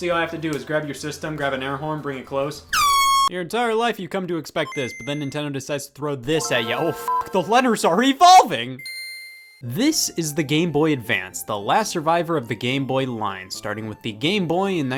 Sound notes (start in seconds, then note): 2.7 air-horn honk; 4.7 Game Boy Startup Sound; 6.4 Game Boy Advance Startup Sound